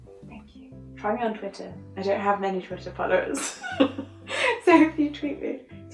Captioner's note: laughs